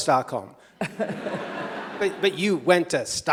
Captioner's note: audience chuckles